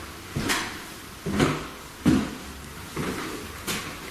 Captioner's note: footsteps thumping